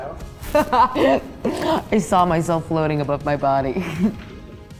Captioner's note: laughs